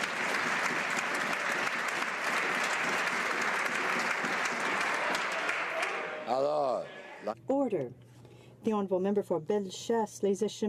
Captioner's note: some Applause